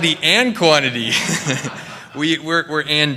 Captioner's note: laughter